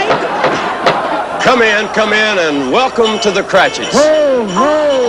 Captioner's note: knock at door